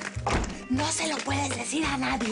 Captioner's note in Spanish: Portazo